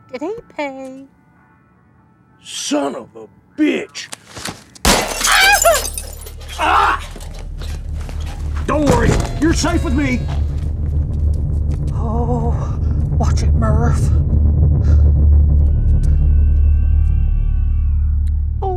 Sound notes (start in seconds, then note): 4.7 gunshot; 6.5 screams; 15.6 screaming